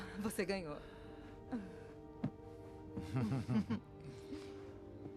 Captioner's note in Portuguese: risadas